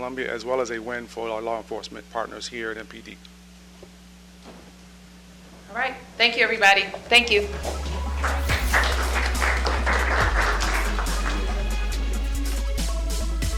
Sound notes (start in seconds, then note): 7.2 applause